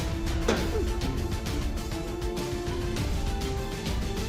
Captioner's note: thud; dramatic musical build